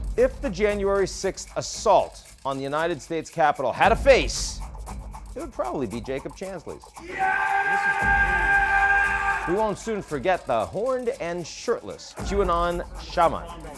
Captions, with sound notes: - If the January 6th assault on the United States Capitol had a face, it would probably be Jacob Chansley's. (man roaring) We won't soon forget the horned and shirtless QAnon Shaman.